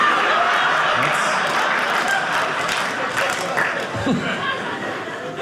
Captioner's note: audience laughing; audience applauding